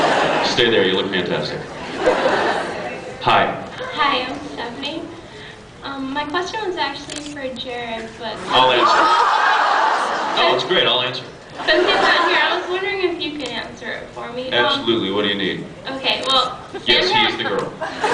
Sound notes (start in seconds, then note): 8.5 laughs; 17.8 laughs